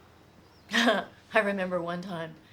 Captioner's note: laughs